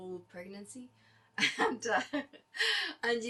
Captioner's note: laughter